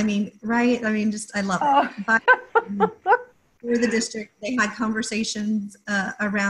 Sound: laughter. Inaudible talking

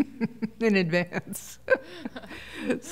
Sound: laughter

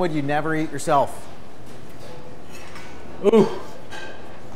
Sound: grunts

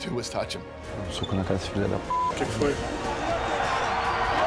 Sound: speaking Portuguese

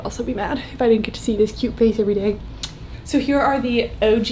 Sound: kissing

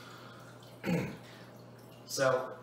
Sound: clears throat

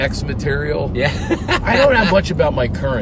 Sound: laughs

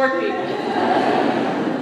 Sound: laughter

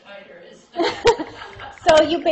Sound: laughter

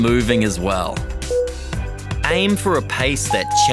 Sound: timer beeping

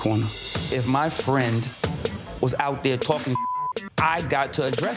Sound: beep

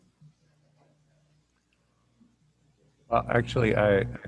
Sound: voice muffled

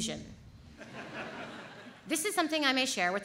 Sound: audience laughs

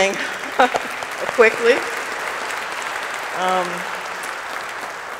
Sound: audience applauding

